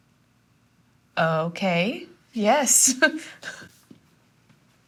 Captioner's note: laughs